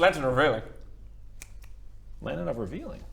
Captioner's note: click click